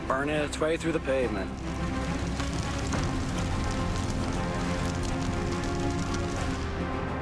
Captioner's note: fire crackling